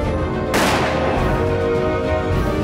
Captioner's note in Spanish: Disparo